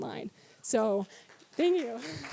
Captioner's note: applause